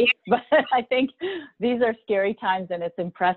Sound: laughing

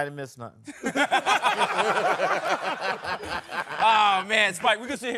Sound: laughing

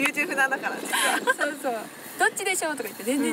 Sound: laughs

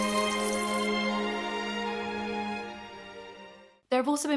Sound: pot sizzling

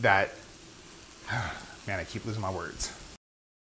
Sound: sighs

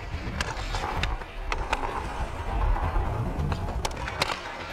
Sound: skates whooshing

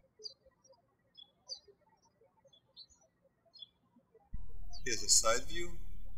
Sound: birds chirping

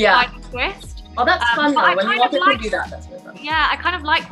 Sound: overlapping chatter

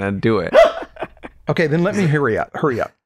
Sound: laughter

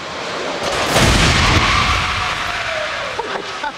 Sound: smashing sound

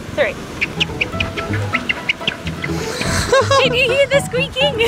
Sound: sand squeaking

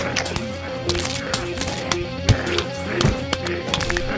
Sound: blows thudding

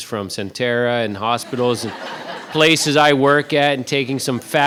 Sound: audience laughs

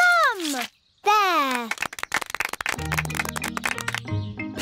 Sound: applause

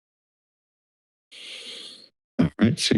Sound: inhales

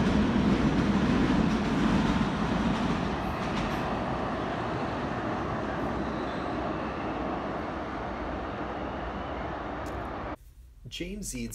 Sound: train noises

